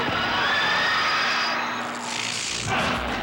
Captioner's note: crowd screaming